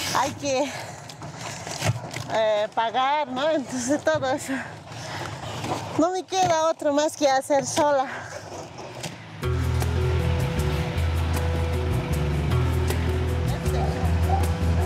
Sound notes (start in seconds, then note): 0.7 speaking in foreign language; 9.2 dramatic music